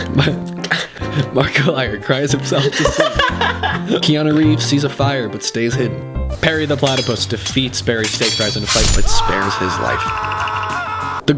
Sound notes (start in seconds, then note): 0.2 while laughing; 6.7 swords clanging; 8.8 screaming